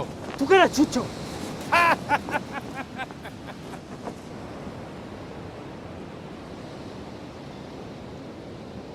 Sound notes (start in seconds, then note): 1.6 laughing